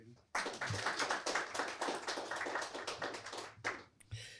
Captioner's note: applause